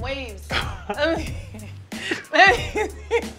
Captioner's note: laughter